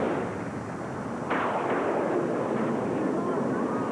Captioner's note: thunder